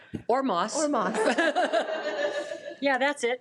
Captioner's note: attendees laugh